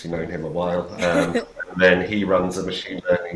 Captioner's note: laughs